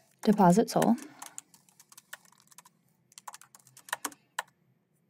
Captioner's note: keyboard clacking